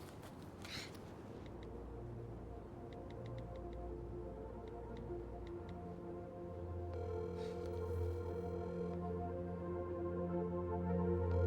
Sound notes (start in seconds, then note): 2.1 soft synth music; 7.0 phone line trilling